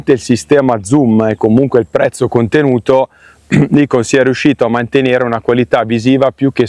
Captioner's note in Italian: schiarire la voce